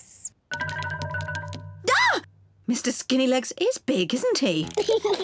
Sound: screams; peppa pig and george laugh

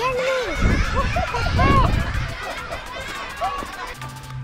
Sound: children laughing

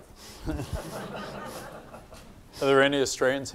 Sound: laughing

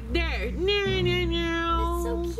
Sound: humming

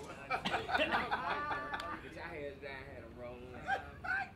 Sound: laughing

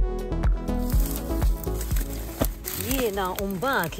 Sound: grass rustling

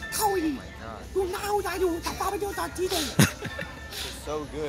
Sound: giggling

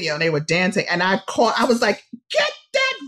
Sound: shouting

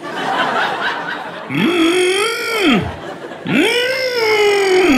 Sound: grunting forcefully; audience laughing

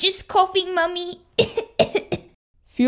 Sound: cough! Cough!

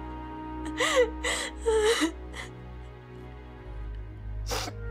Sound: sobbing continues

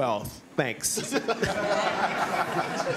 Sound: laughter

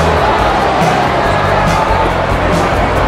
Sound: crowd making noise

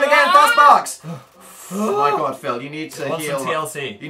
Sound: long panicked noise; breathes theatrically

